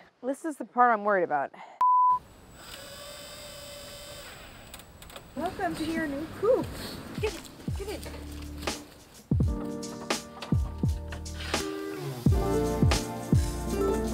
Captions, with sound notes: This is the part I'm worried about. (power tool buzzing) Welcome to your new coop. Get in, get in. (chill music)